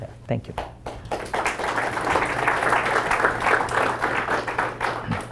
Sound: applause

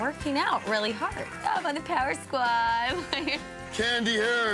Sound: laughs

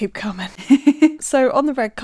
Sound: laughing

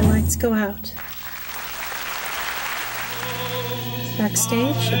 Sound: applause

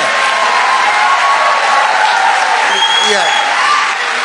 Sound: congregation cheering

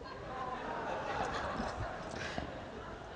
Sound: laughter

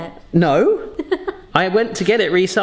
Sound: laughing

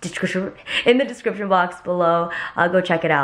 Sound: slurring

